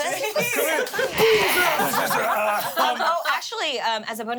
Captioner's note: everyone laughs